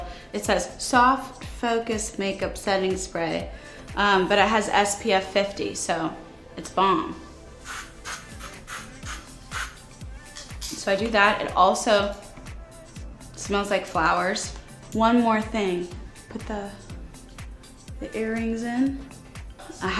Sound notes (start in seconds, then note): 7.6 mist spraying